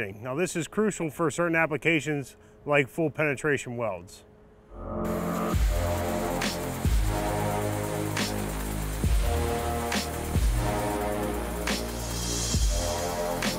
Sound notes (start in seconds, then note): 4.8 invigorating music; 5.0 welding machine buzzing